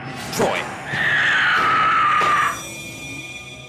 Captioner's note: door slams